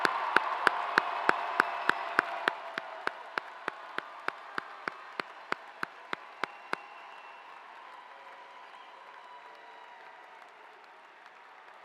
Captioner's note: cheers and applause